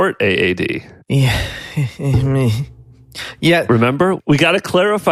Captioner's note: sighs